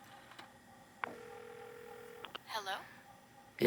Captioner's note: phone ringing